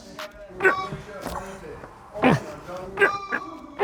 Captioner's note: man struggling